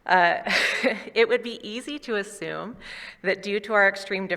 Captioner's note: chuckles